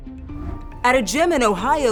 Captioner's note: graphics whooshing